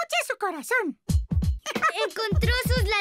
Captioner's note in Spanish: latidos ritmicos